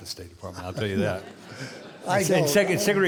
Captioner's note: audience laughing